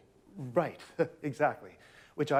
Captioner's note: chuckles